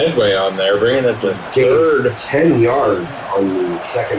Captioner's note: crowd Noises